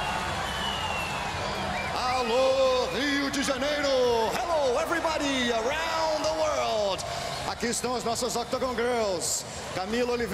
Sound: cheering

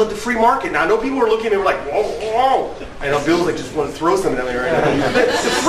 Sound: groan

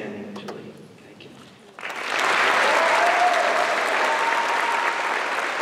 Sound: applause

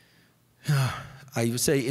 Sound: Andrew sighs

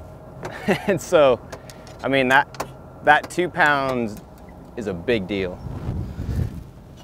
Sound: laughs

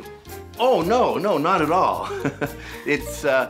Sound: laughs

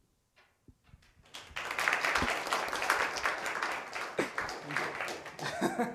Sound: applause

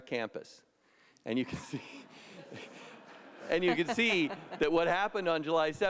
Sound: laughter

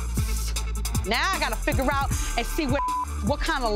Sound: beep

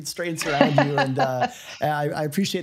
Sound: laughs

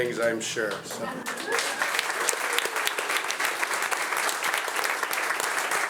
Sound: audience applauding

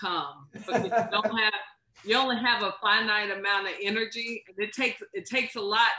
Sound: laughter

